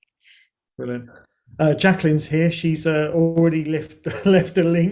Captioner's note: chuckles